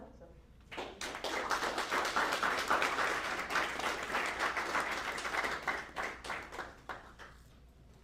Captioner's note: applause